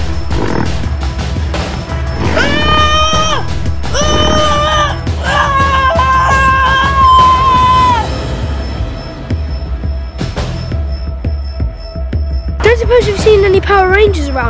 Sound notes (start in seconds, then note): 3.8 screaming